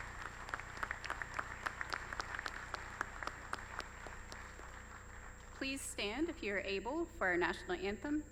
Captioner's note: applause